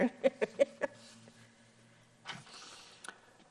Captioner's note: laughs